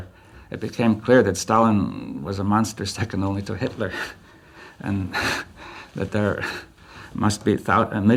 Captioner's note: laughs